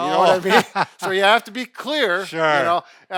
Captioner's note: laughing